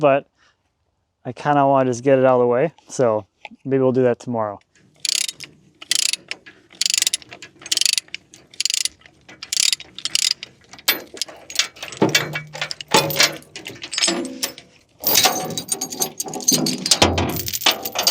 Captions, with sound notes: but I kind of wanna just get it outta the way. So maybe we'll do that tomorrow. (tools clinking)